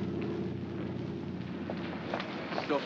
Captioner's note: footsteps